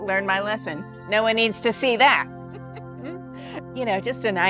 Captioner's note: chuckles